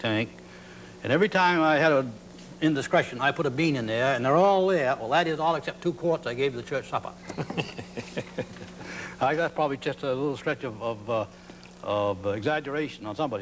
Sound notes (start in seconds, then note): 7.2 men laugh